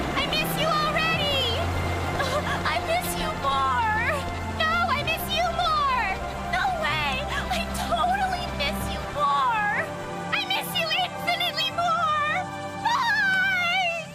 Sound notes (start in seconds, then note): 2.0 sob